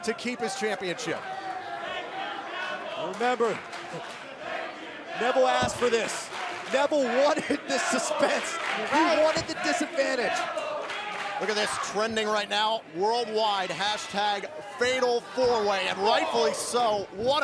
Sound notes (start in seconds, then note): 4.0 fans chanting